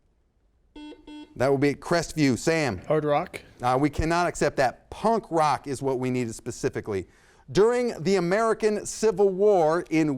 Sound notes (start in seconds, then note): 0.7 buzzer sounds